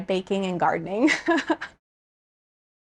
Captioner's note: person laughing